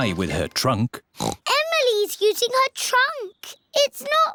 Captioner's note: oinks